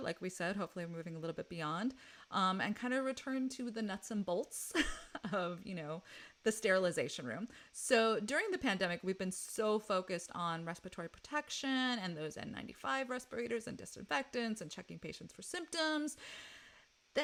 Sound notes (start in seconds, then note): 4.6 laughs